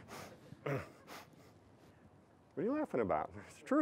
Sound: laughing

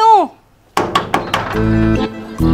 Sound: knocking on the door

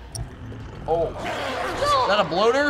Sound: faint growl; aggressive snarl

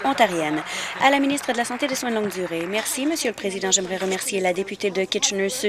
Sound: applause

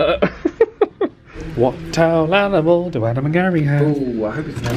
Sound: laughs

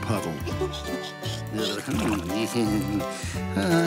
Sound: sleepy sigh

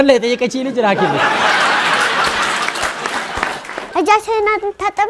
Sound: laughter and applause

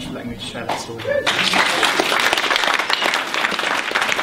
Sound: applause

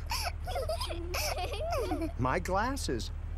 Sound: giggles

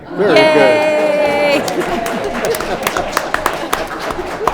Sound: board applauding

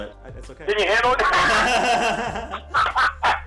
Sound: laughter

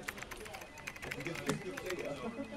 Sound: typing on laptop, Telephone rings

